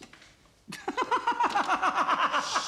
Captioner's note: tertawa